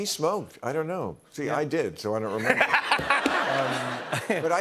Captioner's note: laughter